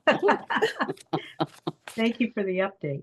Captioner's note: board members laughing